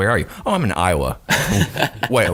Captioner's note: laughing